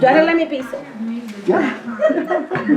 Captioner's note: speaking in Spanish